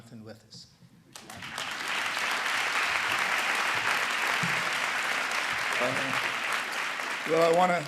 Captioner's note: applause